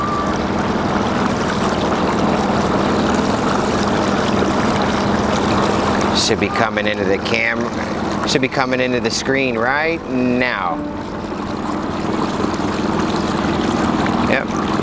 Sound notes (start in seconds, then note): 1.5 water sloshing; 11.8 water sloshing